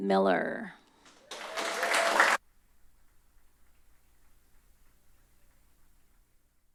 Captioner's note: applause